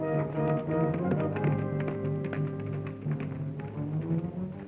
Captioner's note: hooves clop